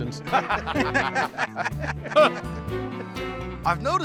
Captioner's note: laughter